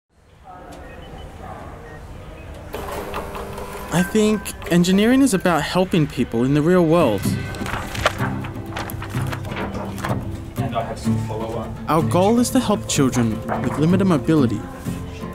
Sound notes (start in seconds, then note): 0.2 electronic beeping; 0.2 people chattering; 7.0 gentle guitar music